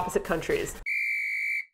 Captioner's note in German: Trillerpfeife